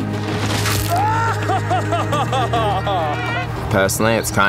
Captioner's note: man 1 laughs